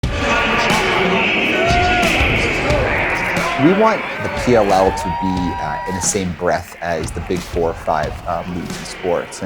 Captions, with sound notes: [BACKGROUND STADIUM ANNOUNCER] We want the PLL to be in the same breath as the big four or five leagues in sports.